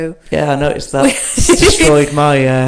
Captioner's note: laughs